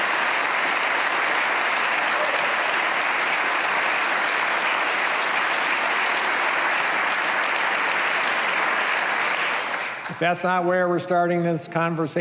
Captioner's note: cheers and applause